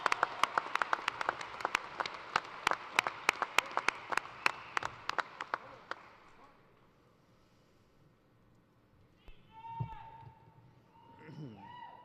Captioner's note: applause